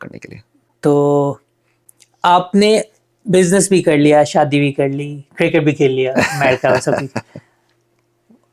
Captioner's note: laughs